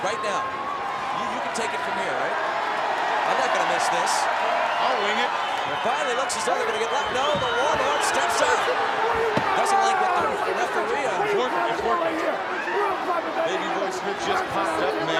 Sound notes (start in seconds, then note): 4.4 audience cheers; 7.2 speaks faintly